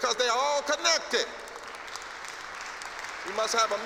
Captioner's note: applause